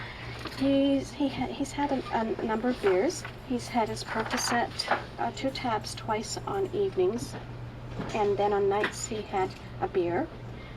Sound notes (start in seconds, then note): none